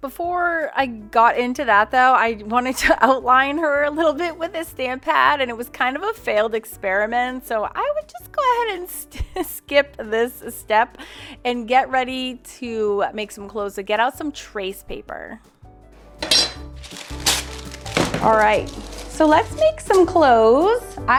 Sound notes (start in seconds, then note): 16.2 metal clanking; 16.7 paper crackling